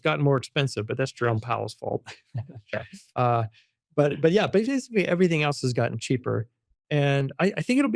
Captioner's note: laughs